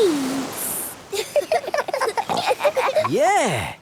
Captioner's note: giggling